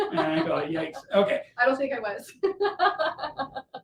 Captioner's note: laughter